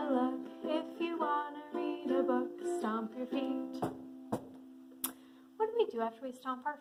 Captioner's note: stomping feet